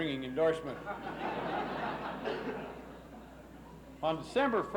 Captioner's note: laughs